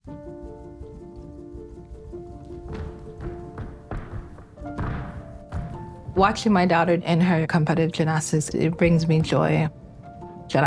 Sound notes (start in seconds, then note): 0.0 soft piano music; 2.2 mat thudding